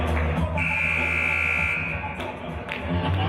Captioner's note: buzzer